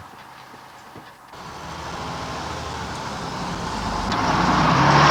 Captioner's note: engine rumbling